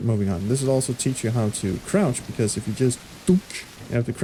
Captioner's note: imitates coconut bonk